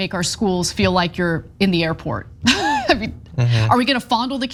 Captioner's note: laugh